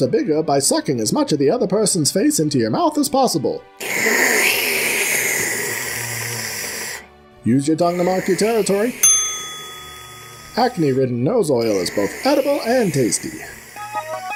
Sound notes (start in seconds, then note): 3.8 giant, wet, messy slurp; 7.8 more slurps; 13.1 success fanfare